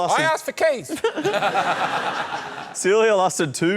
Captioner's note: laughter